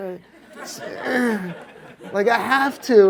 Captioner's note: audience laughs